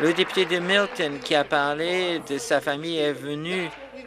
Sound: applause

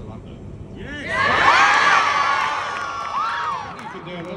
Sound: cheers and excitement

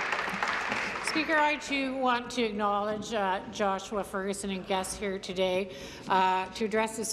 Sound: applause

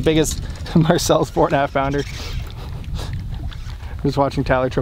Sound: laughs

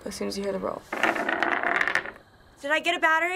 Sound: battery rolling

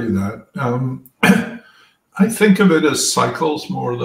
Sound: cough

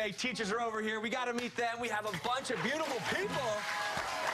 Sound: applause

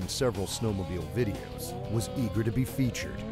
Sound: voiceover

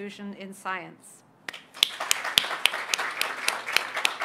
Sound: applause

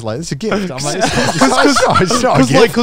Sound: everyone laughs

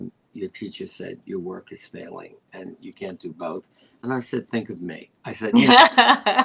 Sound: laughter

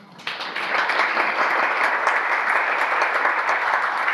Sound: audience applause

